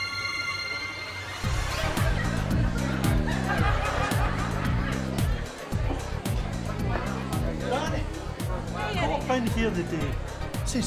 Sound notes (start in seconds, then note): 4.9 dance music; 4.9 people chatter